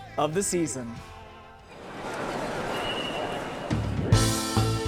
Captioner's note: street chatter; up-tempo music